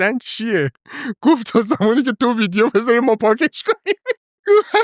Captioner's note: laughs